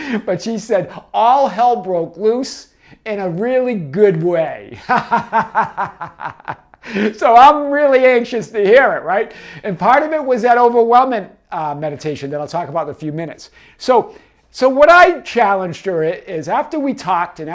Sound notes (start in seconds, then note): 4.7 laughs